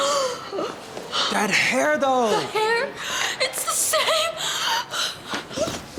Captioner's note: gasp